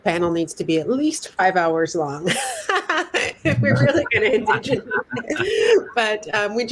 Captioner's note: laughter